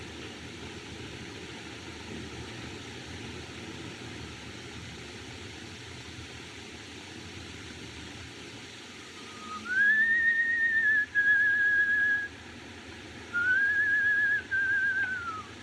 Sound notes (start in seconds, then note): 9.1 whistling